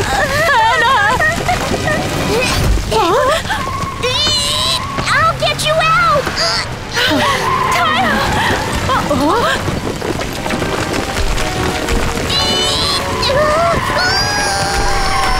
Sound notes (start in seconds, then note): 3.9 Tayo strains; 12.2 Tayo strains